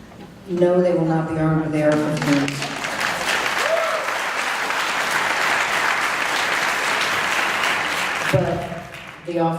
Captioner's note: applause and cheers